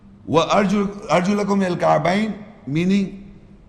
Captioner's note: Arabic